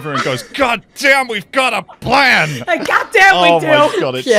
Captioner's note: laughter